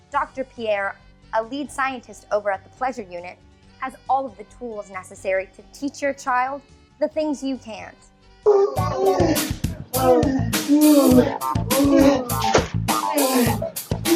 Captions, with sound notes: Dr. Pierre, a lead scientist, over at the Pleasure Unit has all of the tools necessary to teach your child the things you can't. (moaning and yelling)